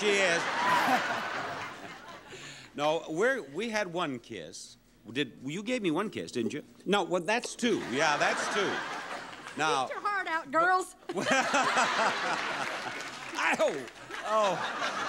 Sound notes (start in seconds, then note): 0.0 audience laughing; 7.8 audience laughing; 11.1 everyone laughing